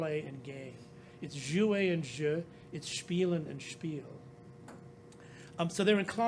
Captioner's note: speaking french; speaking german